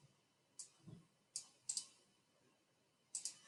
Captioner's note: mouse clicking